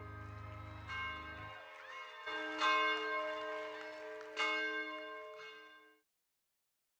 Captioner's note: audience applauding; spirit bell ringing